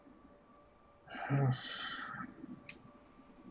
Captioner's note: sighs